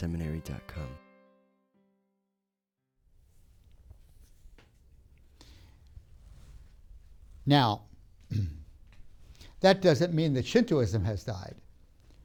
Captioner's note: clears throat